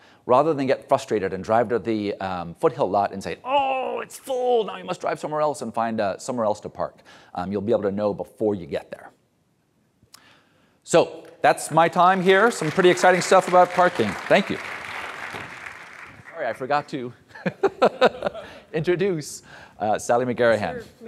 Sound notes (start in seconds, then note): 16.2 audience applauds; 17.4 laughs